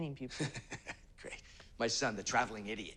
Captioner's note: laughs